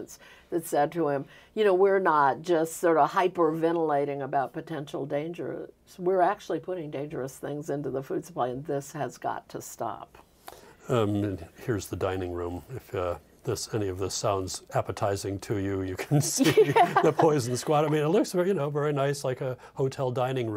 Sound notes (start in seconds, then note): 16.0 both laughing